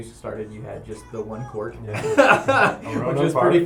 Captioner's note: laughter